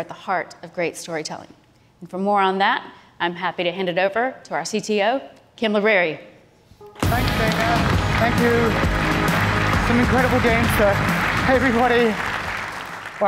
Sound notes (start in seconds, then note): 7.0 applause